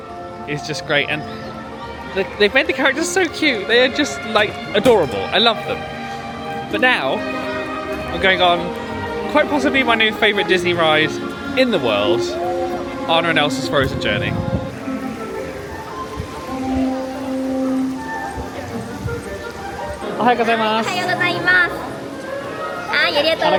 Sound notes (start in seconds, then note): 15.2 bright music; 15.2 water whooshing